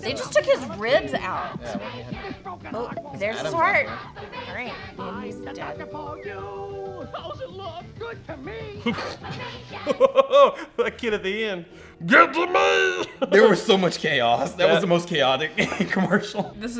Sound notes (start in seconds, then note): 8.5 laughs